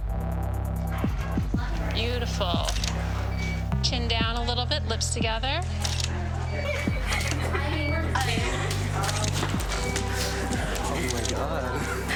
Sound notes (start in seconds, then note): 5.8 camera shutter clicking; 6.4 both laughing